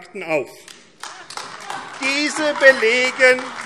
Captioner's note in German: Beifall AfD - Lachen CDU